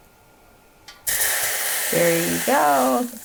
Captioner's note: water sizzling